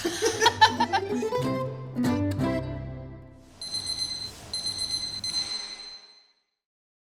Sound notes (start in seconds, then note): 0.0 laughs; 3.6 alarm ringing